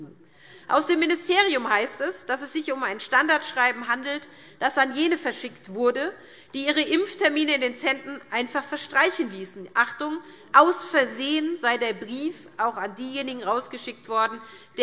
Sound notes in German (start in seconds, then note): none